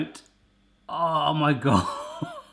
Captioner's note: laughs